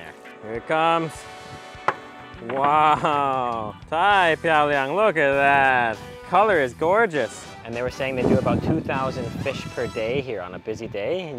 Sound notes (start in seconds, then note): 1.6 tray clanks; 2.9 speaks in foreign language